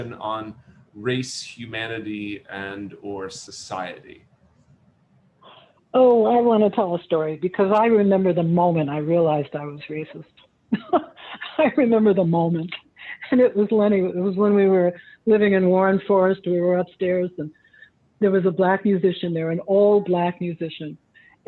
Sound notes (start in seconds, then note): 10.6 laughs